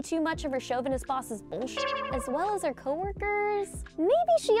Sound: beep

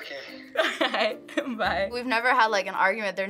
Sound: laughs

